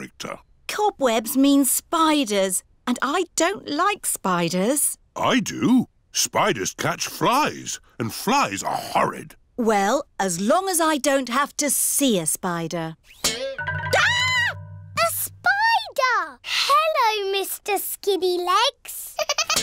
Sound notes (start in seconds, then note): 12.7 screams; 19.1 giggling